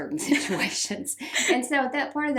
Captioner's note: both laugh